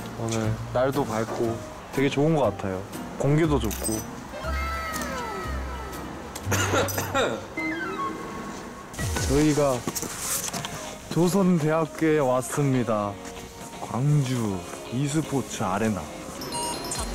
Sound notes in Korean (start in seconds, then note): 6.4 콜록 콜록